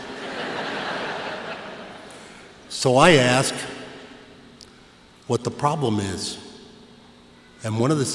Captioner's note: laughter